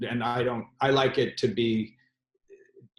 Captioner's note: none